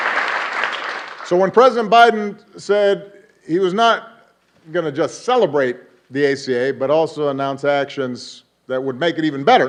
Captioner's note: applause